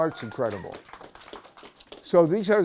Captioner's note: applause